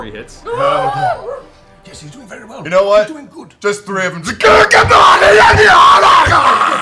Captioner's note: battle cry